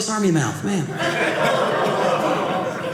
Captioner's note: audience laughing